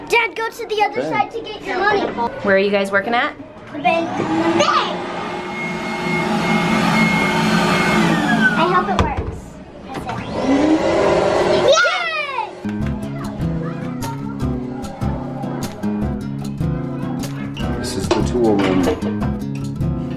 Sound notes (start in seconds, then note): 6.3 vacuum whirling; 12.6 western music